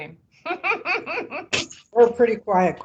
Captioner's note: laughing